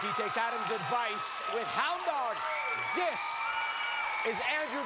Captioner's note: cheers and applause